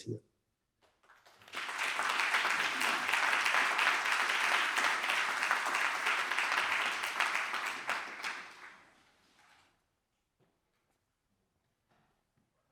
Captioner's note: applause